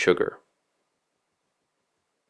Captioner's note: pause